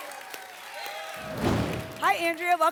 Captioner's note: applause and cheering cont; whoosh